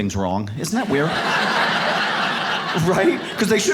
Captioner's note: audience laughs